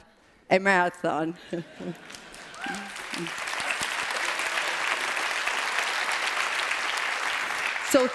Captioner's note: applause